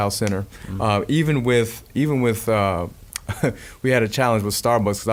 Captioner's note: laughing